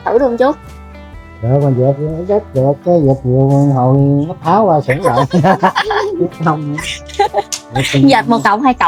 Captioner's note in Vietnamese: tiếng cười